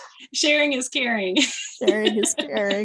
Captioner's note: chuckling; laughter